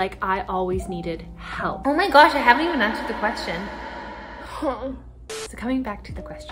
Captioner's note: groans